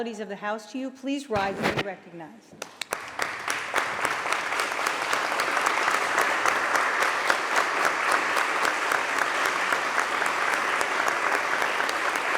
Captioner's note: applause